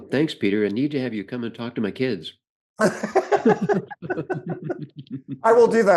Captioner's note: laughter